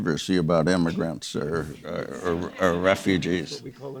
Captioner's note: audience members laughing